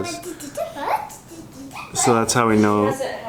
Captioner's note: babbling